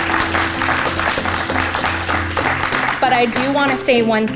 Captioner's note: applause